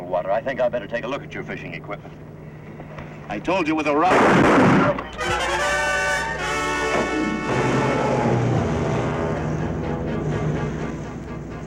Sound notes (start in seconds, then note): 4.1 weapon firing; 5.2 ominous music